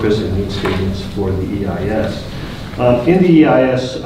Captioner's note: rustling drowns out speaker